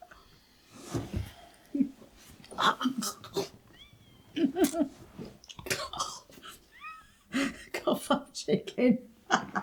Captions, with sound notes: (gagging) - Cough up chicken.